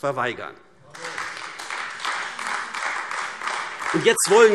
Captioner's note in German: Beifall AfD